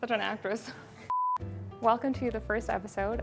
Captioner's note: beep